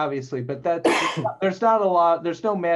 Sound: coughs

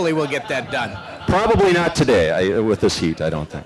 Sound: laughter

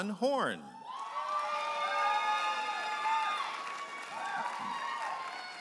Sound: audience applauding and cheering

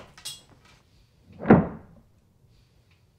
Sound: thud

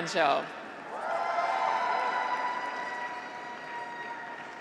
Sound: graduates cheer

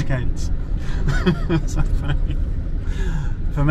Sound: laughing

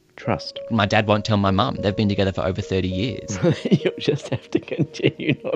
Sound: laughs

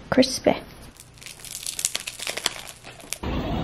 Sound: crunch ASMR

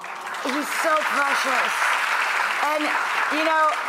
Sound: audience applause

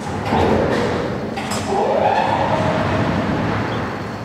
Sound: machine noise

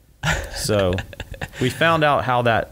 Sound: laughs

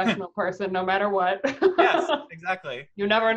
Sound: laughs

